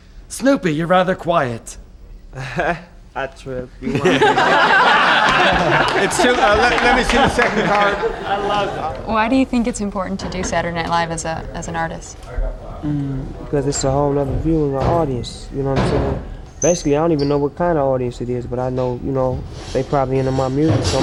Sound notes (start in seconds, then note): 3.8 laughs; 3.8 crowd laughter